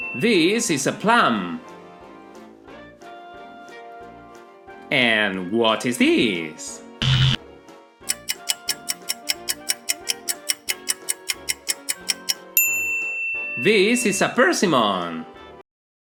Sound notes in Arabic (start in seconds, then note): 7.0 صوت طنين; 8.0 صوت ساعة